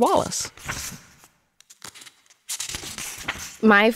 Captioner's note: pages turning